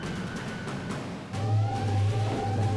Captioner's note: alarms blaring